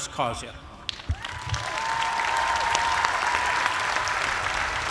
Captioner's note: cheers and applause